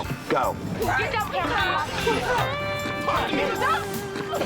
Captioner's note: yelling